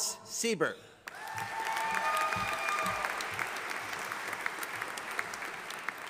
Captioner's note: audience applauding